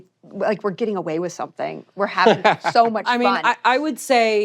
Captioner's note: laughs